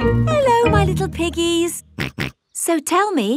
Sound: snorts

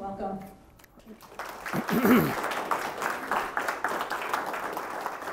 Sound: audience clapping

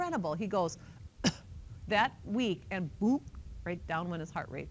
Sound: coughs lightly

